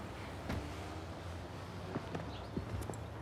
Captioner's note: car door shuts